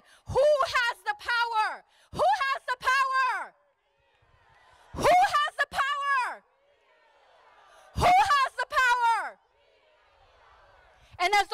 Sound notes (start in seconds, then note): 3.5 crowd; 6.5 crowd; 9.6 crowd